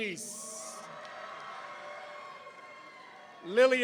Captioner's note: audience cheering